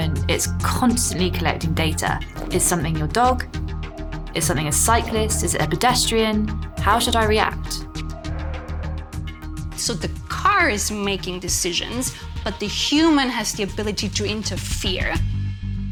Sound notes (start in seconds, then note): 8.2 brakes screech; 8.2 ominous music